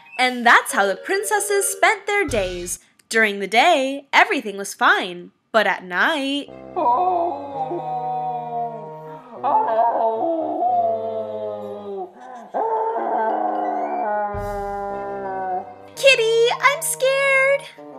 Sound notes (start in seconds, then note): 6.7 moaning sound